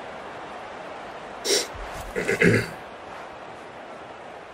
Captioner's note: clears throat